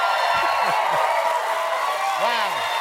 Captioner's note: cheering